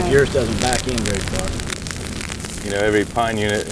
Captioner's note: sound of crackling flames